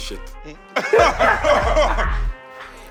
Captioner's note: laughter